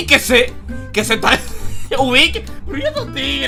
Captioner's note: ahahah